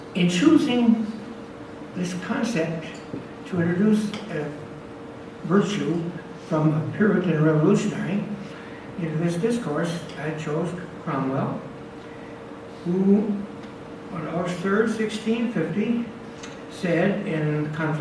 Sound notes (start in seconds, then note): none